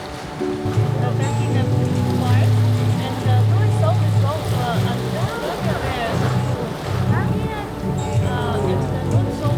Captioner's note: chatting with a nearby traveller